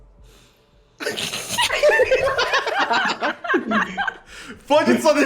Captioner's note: laughs